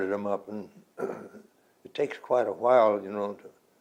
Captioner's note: clears throat